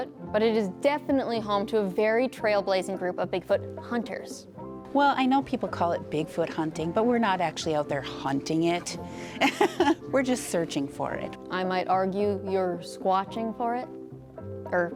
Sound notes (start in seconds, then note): 9.4 laughing